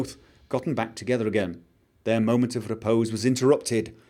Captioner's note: none